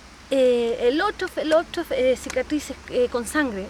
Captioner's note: speaking in a foreign language